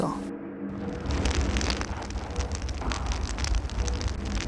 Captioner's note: fire crackling